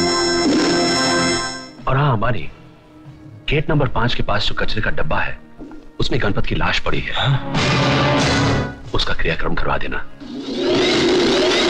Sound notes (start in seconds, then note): none